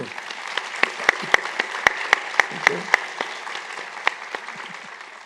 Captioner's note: applause